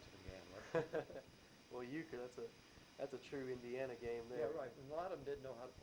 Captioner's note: both laugh